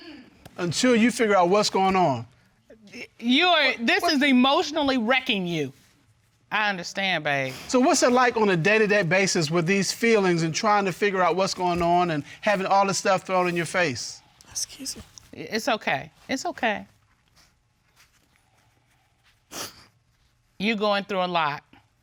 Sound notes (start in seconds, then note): 19.3 sniffles